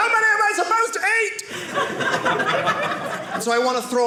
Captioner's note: audience laughing